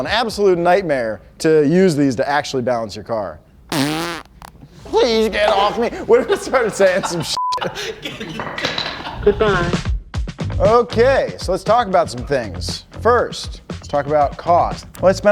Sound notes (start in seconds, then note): 3.7 blows raspberry